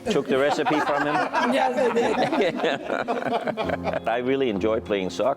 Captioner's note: laughing